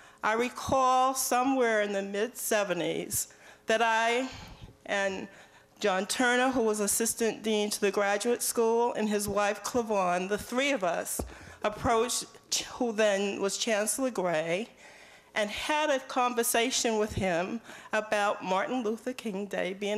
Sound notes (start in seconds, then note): none